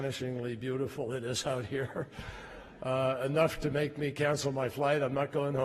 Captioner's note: laughter